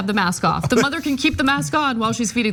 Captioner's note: laugh